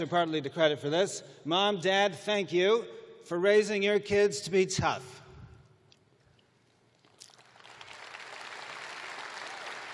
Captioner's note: applause